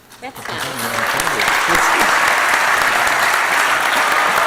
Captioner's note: applause